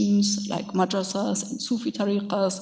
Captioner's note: speaks in a foreign language